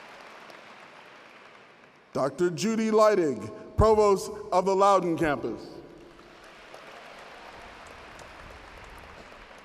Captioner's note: applause; applause